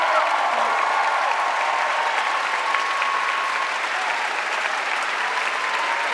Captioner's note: audience applauding and cheering